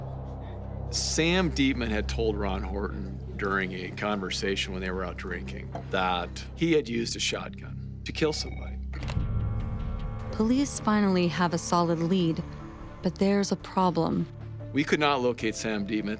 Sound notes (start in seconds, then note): 8.3 phone ringing